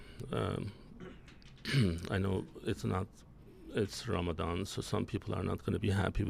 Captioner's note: clears throat